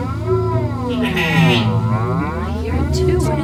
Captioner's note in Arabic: بكاء الأغنام